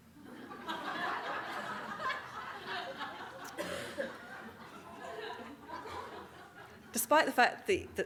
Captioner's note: audience Laughing